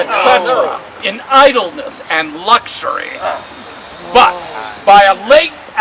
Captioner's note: crowd; crowd